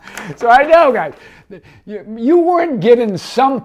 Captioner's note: paper crinkling; laughs